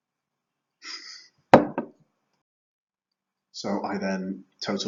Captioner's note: laughing